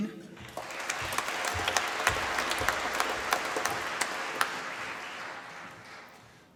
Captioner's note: applause